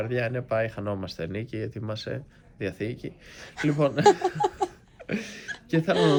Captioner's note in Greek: γέλια